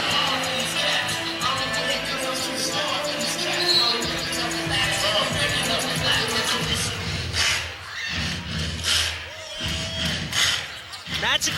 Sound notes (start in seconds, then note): 3.1 whistle